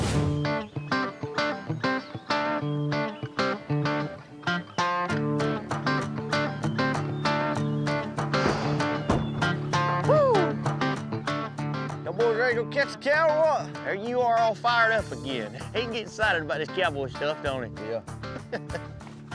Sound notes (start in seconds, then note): 8.3 doors close; 18.3 chuckles